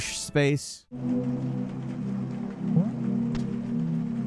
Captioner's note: water glugging; bubble popping